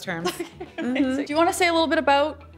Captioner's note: laughing